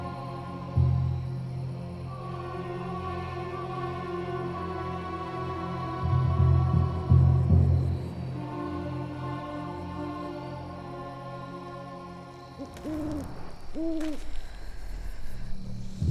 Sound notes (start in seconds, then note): 12.3 owl hooting; 12.6 torch crackling